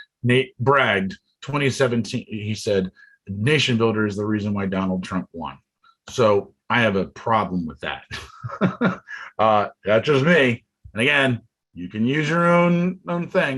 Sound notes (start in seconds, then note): 8.1 chuckles